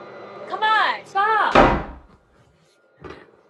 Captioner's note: slams door